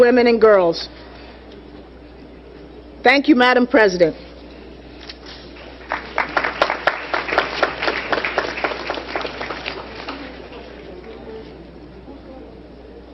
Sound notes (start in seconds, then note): 5.5 applause